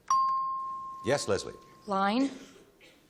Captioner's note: chimes